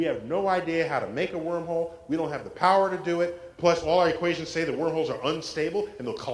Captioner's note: none